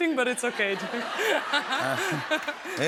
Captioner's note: laughter